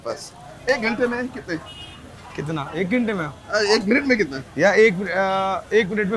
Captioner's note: host and cook speak foreign language